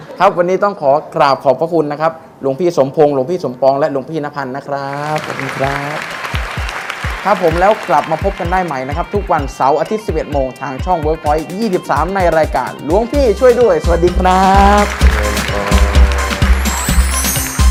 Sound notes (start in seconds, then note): 5.0 clapping sound